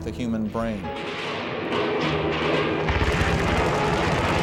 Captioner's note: guns firing